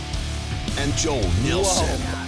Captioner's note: voiceover